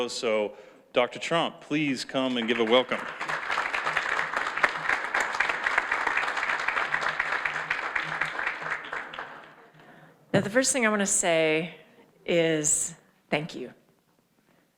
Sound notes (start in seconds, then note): 3.8 audience applauds